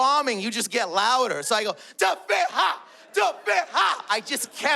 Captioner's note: speaks in Arabic